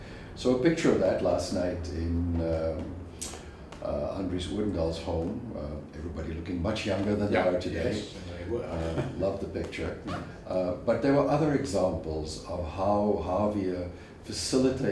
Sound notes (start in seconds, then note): 7.7 laugh